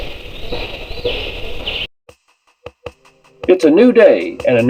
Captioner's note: banging